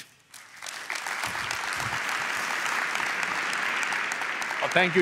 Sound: applause

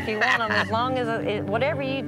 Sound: laughs

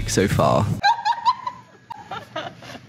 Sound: laughing

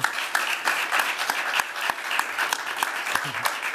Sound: applause

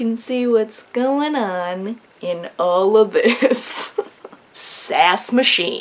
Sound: laughs

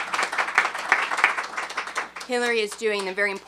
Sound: applause

